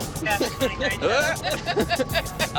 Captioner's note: laughs